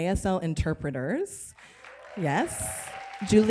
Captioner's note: applause and cheers